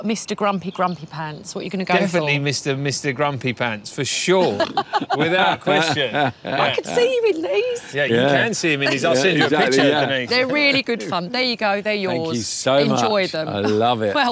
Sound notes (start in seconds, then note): 6.6 laughs